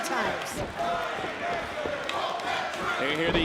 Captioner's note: crowd cheering